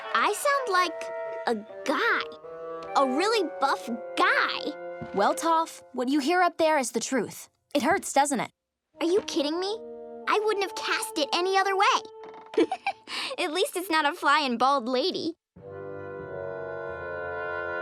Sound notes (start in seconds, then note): 12.5 giggling